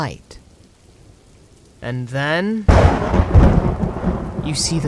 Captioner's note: thunder strikes